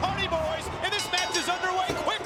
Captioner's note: bell ringing